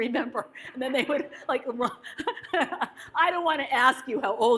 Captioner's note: laughs